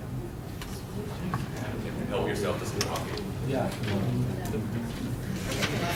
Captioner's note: students chattering